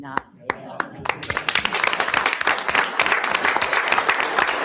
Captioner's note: everyone applauds